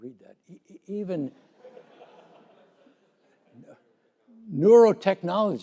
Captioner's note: laughter